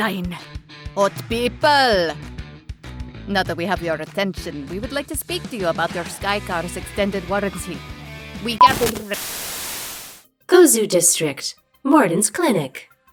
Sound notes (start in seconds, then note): 8.6 static